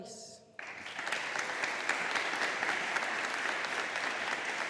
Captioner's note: audience applauding